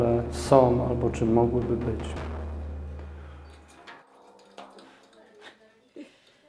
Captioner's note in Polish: ucicha odgłos bębna, wzdycha